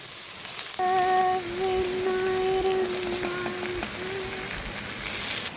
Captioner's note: humming a little song